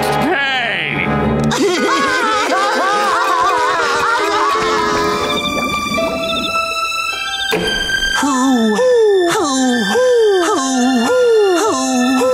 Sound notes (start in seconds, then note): 1.6 crying